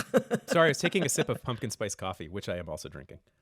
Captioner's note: laughter